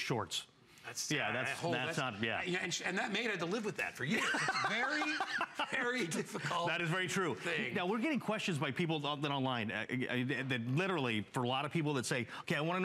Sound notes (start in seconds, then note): 4.0 laughter